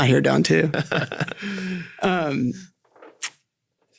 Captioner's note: all laughing